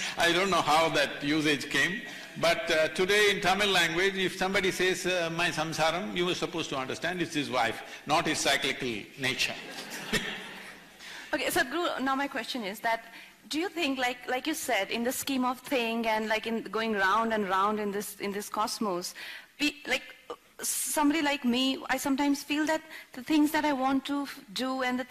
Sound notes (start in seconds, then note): 9.6 laughter